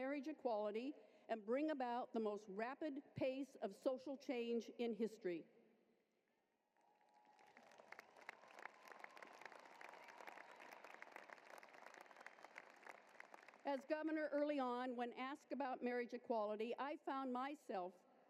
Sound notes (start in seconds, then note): 9.4 applause